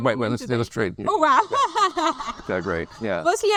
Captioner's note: laughs